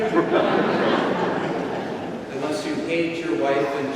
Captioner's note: congregation laughing